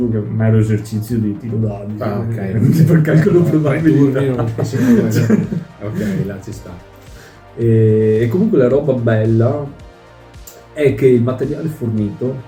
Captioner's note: laughter